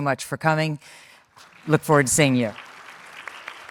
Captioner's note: audience claps